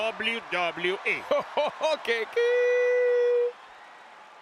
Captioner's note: applause; laugh